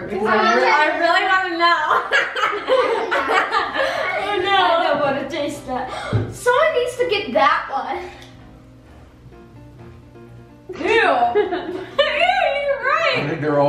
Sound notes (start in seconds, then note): 1.8 laughing